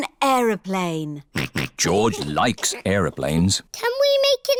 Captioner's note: snorts